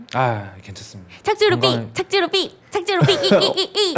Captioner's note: landing error, beep approaching